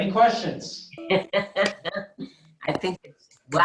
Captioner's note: woman laughing